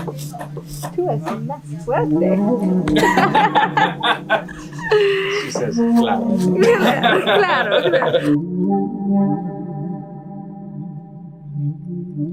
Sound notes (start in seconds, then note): 1.0 speaking in foreign language; 2.8 both laughing; 8.8 mysteRious tribal music